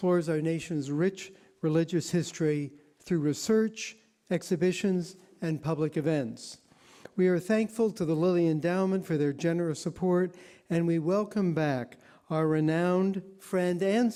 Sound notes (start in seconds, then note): none